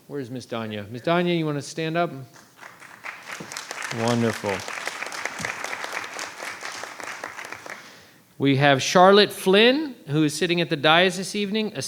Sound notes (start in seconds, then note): 2.3 applause